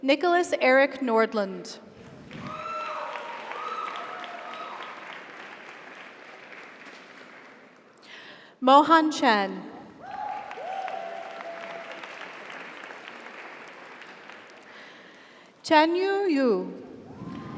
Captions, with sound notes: - Nicholas Erick Nordlund. (audience applauds) (audience cheers) Mohan Shen. (audience applauds) (audience cheers) - Congratulations. (audience applauds) (audience cheers) - Chenyu You.